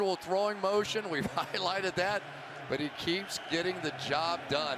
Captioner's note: cheering